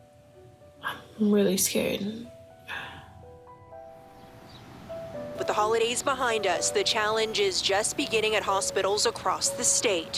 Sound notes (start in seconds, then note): none